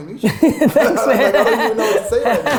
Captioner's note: laughing